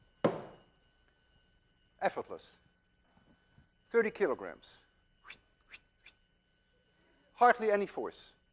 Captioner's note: whistles softly